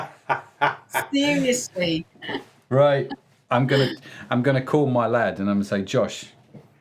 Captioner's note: laughing